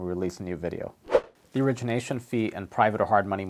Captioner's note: air whooshes